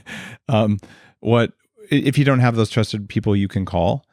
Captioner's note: chuckles